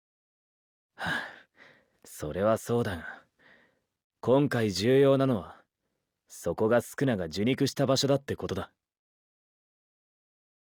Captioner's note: sigh